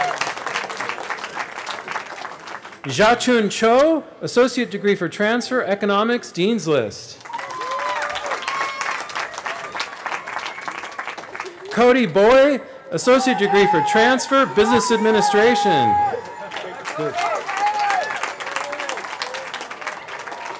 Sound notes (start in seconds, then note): 9.2 cheering; 17.7 cheering